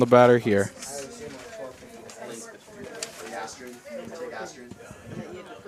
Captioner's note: indistinct chatter